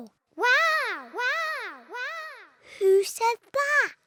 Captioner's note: peppa's voice echoes around mountains